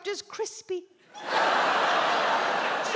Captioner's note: audience laughs